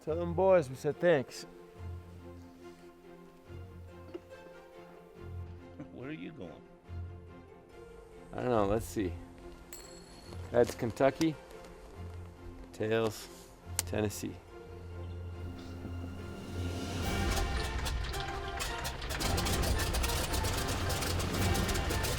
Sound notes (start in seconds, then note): 17.1 whirring